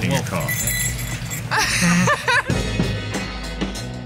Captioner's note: laughter